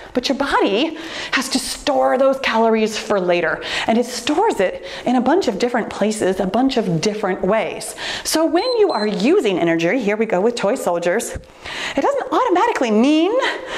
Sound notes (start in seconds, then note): 8.6 timer beeps